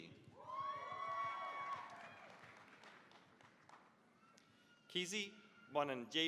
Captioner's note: cheering, applause